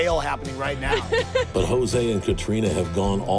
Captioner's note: laughter